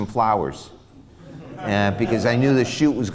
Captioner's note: laughs